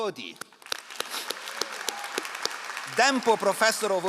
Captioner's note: all applauding